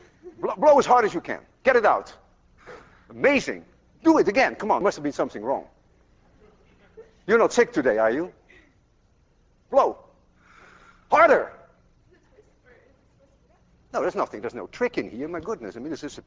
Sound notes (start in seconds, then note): 6.6 class laughs